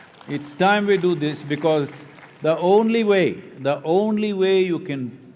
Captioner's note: applause